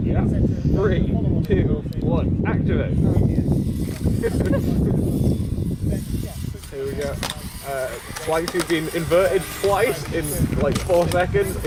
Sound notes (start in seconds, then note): 3.8 laughing